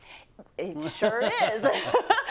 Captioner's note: laugh